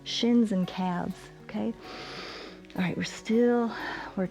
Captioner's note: inhales